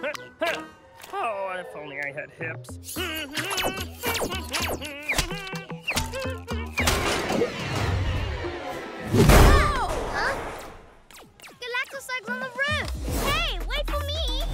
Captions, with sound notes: Huh! Huh! Oh, if I only had hips. (Humming) - Whoa! - Huh? Galactoslug's on the roof! Hey! Wait for me!